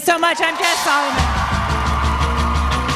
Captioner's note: cheers and applause